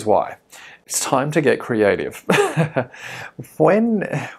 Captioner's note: laughs